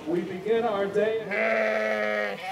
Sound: neigh

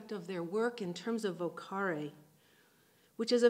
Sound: speaking in foreign language

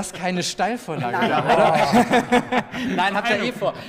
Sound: laughter

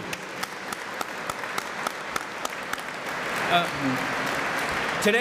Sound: applause

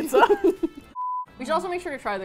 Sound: both laugh

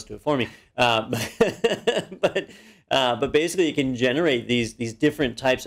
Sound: laugh

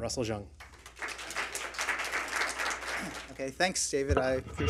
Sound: applause from audience

